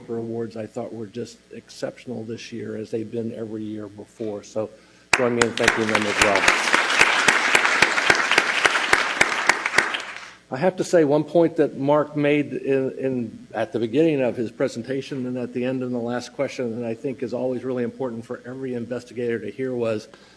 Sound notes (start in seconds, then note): 7.7 applause